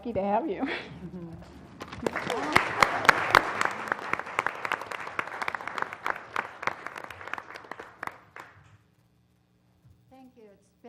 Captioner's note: applause